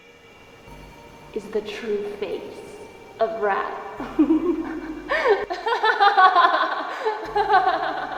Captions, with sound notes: is the true face of wrath. (Slate laughing)